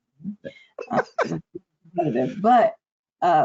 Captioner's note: chuckles